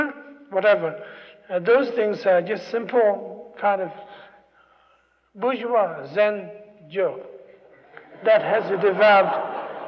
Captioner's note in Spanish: risas